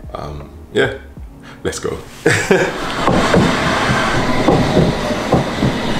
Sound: laughs

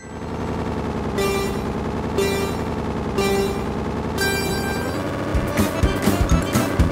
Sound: go-karts revving; electronic beeping; upbeat music

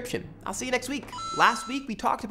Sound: ping

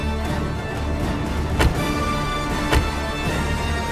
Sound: car door closes

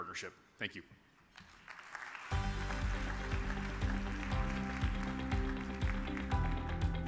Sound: audience applauds; upbeat music

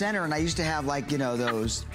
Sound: laughter

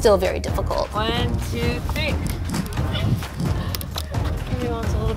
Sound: wood cracking

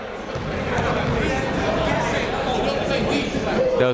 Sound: chatter

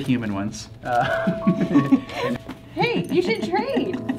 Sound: happy laughter

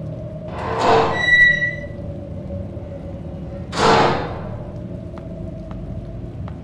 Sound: squeaky door sfx

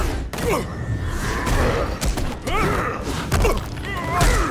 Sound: grunting

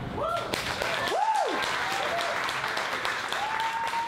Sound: audience cheers and applauds

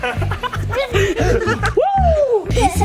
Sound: laughing

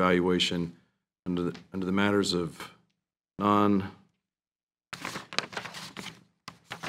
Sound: papers shuffling

